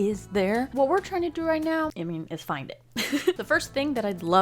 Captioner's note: chuckles